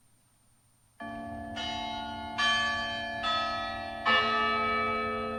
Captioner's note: church bells chiming